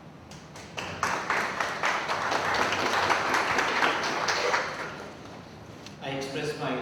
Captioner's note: applauds